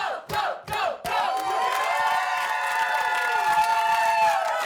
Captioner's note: cheering